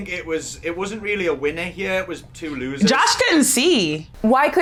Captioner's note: laughing